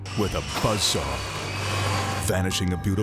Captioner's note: saw buzzing